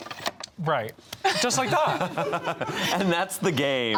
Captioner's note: all laughing